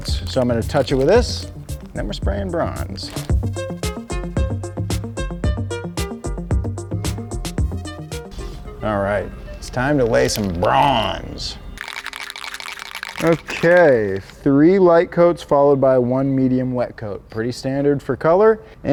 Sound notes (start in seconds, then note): 3.6 upbeat music; 11.8 paint can rattling